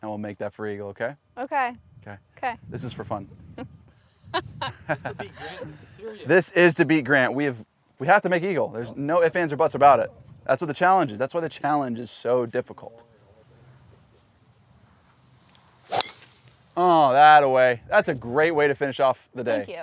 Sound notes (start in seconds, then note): 4.3 laughs